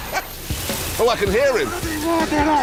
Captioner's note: jeremy laughs